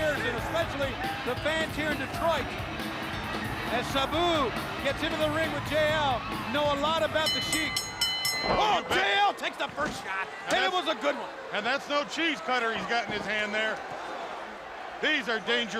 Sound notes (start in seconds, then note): 7.0 bell ringing